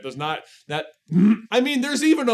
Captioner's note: grunt of frustration